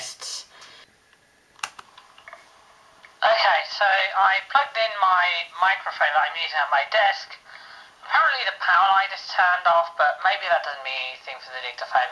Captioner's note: click